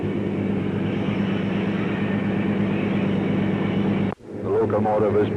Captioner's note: sound of train moving